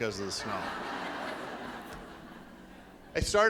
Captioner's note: laughing